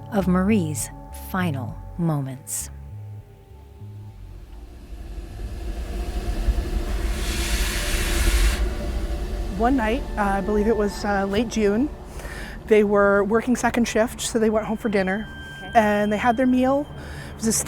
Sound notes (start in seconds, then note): 5.4 ominous instrumental sounds; 7.6 train chuffing